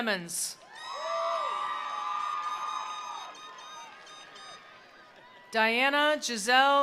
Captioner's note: attendees cheering; attendees applauding